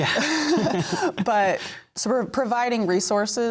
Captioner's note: laughter